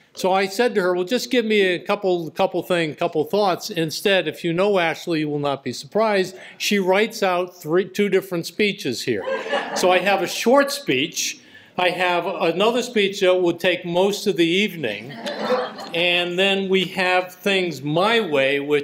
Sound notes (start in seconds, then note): 9.2 laughter